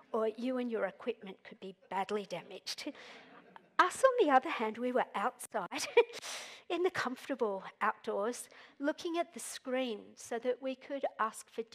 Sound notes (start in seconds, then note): 6.1 chuckles